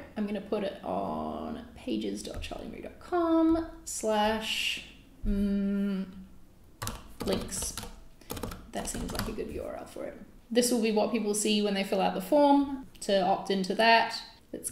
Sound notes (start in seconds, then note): 8.2 mouse clicks